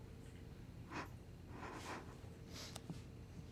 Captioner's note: sniffing